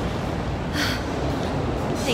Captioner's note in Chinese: 嘆氣